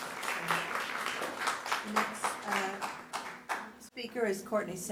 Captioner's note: applause